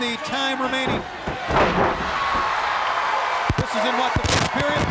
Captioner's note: crowd cheering; body slamming